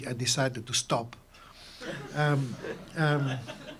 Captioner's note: laughter